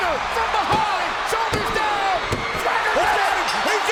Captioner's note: hand pounding